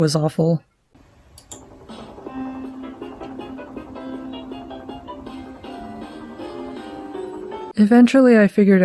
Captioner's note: miserable laptop noises